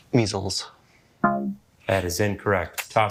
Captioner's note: womp chimes